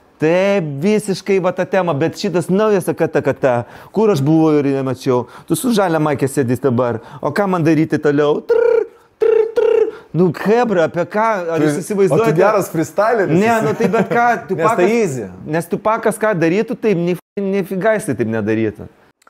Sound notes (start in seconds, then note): 13.4 chuckles